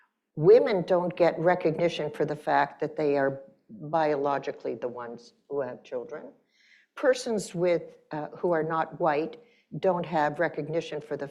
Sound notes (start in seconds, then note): none